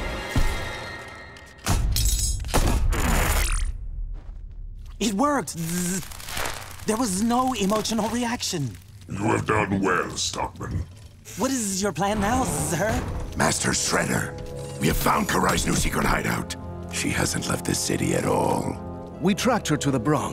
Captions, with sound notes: [clanking, thudding] It worked. There was no emotional reaction. You have done well, Stockman. What is your plan now, sir? Master Shredder, we have found Karai's new secret hideout. She hasn't left the city at all. We tracked her to the Bronx.